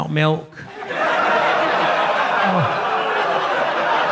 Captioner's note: audience laughs